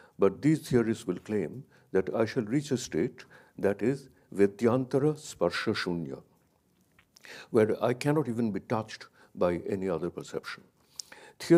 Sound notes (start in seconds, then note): 4.6 speaks in a foreign language